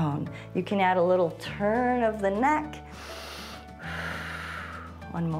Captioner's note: inhales and exhales